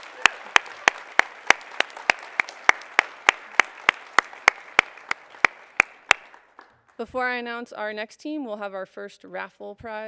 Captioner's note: cheers and applause